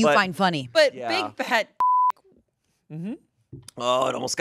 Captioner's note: beep